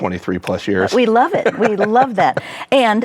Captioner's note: laughs